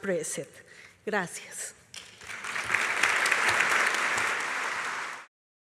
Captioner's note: applause